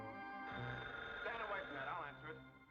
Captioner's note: phone ringing